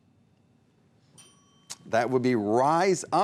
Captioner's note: ding